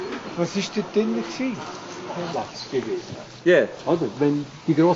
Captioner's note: speaking Swiss German